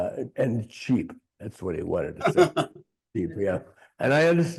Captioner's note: laughing